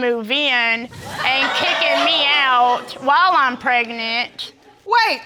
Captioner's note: audience exclaiming